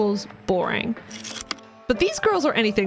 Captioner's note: projector slide click